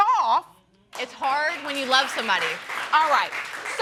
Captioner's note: audience applauds